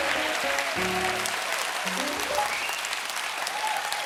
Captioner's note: applause